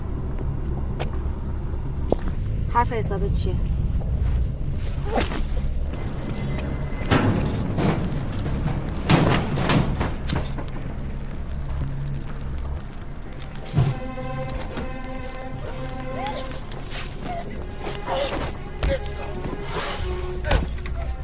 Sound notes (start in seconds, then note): 5.0 tapping sound; 7.1 clanking; 10.3 lighter sound, fire burning